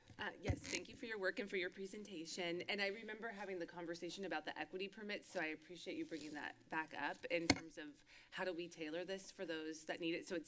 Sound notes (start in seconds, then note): none